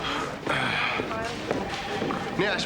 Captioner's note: clears throat